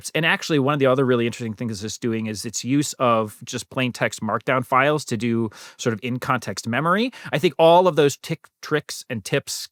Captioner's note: none